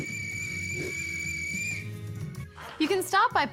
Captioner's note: blows whistle